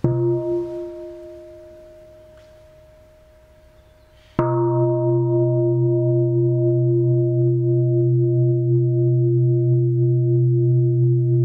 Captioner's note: sound of the bell